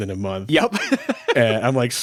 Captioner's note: laughs